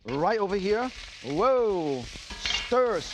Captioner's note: vegetables sizzle